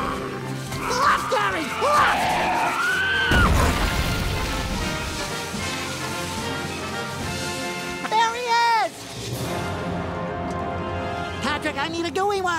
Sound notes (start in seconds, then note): 2.5 screaming